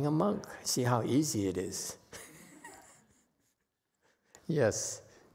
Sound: laughs

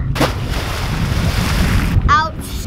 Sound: splash

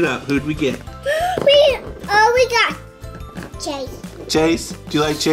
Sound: gasp

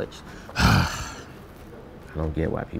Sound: sighs

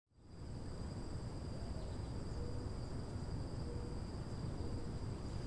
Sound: crickets chirping

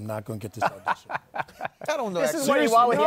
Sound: laughter

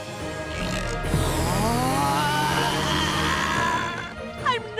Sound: grunting

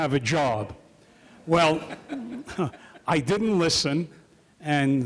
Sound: chuckles

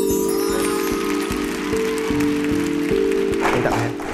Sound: clapping hands

